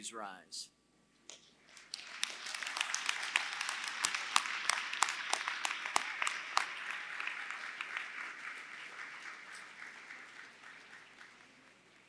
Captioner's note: applause